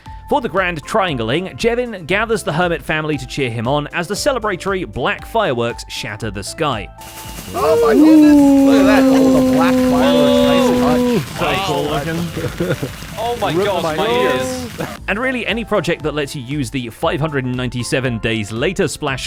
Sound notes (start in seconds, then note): 7.6 fireworks; 8.0 crowd cheering